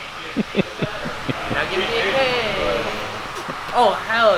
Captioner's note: laughing